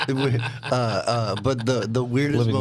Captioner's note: laughing